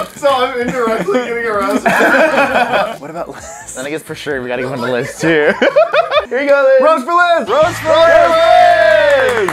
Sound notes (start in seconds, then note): 3.6 wheeze